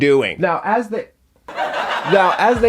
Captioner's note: audience laughing